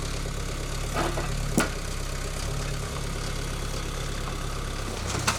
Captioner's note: metal clanking